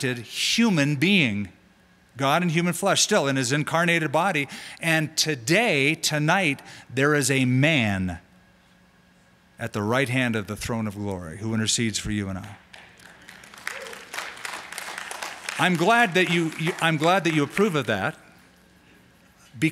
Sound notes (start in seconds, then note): 14.2 applause